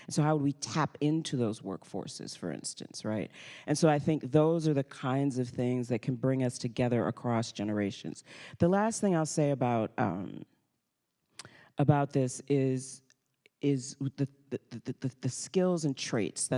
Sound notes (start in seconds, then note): none